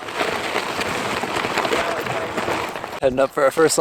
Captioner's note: crunching gravel